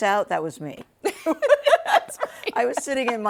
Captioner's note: both laughing